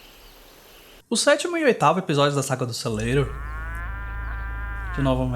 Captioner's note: muuu